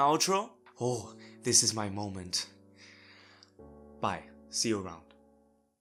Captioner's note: inhales